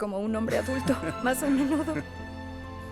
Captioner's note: Mario ríe